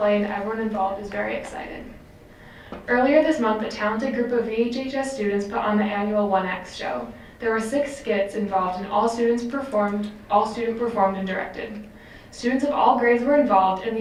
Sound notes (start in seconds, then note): none